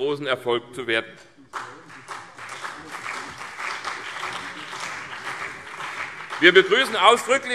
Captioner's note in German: Beifall CDU und BÜNDNIS 90/DIE GRÜNEN